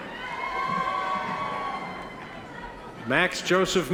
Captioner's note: audience members cheer